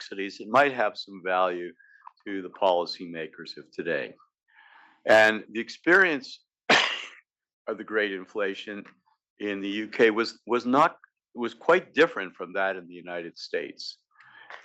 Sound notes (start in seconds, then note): 6.7 cough